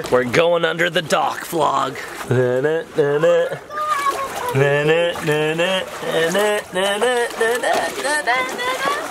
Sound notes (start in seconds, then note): 2.5 dad humming